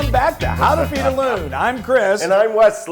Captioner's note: laugh